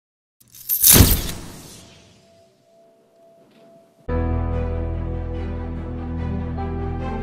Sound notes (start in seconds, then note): 0.8 camera shutter; 4.2 suspenseful Music